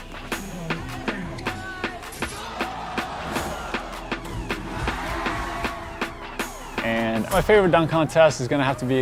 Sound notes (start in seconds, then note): 3.7 crowd cheers